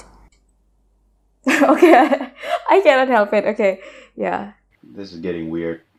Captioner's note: laugh